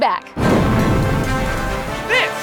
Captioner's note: roaring